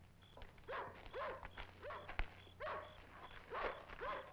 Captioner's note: dog barking